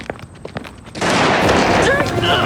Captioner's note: booming; menacing music